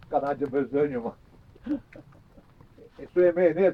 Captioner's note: laughter